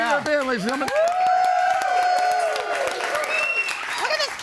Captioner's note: audience cheers